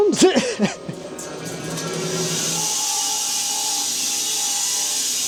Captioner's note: saw buzzes